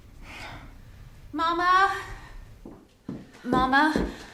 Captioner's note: sighs; footsteps